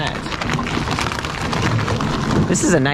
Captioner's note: gravels rattling